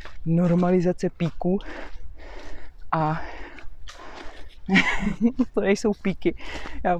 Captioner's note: laughs